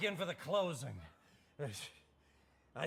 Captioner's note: stammers